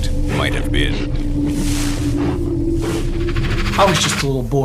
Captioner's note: creature grunting